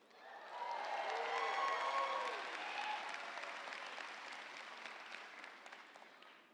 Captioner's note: audience cheering; audience applauding